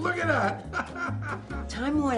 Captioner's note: laughs